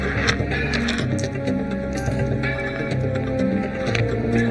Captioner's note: bullets clatter; ominous orchestral music